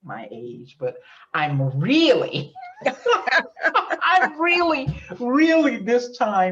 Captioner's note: laughs